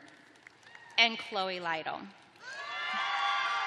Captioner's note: cheering